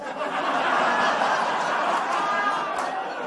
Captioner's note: laughter